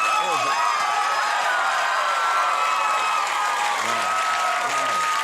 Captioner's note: crowd cheers